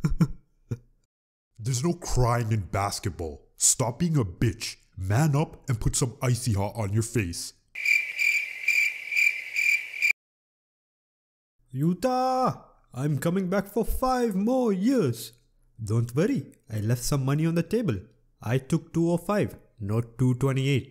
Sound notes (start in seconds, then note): 7.7 crickets